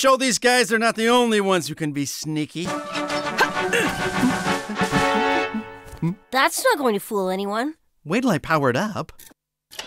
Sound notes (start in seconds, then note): 2.7 self-satisfied humming; 3.3 grunting